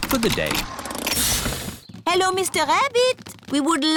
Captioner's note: engine stops